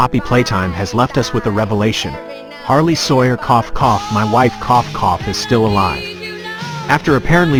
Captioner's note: cough